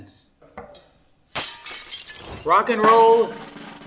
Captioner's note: glass shatters; drum roll